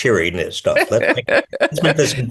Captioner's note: laughs